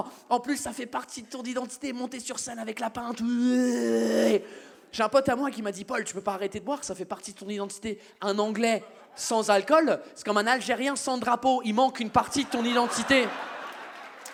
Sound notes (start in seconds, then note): 3.3 english noise